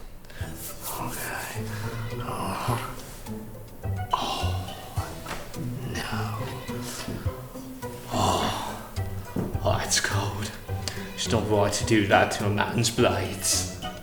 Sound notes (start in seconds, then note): 3.9 scoffs